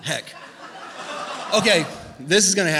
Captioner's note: laughter